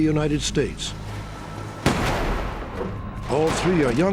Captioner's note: gunshots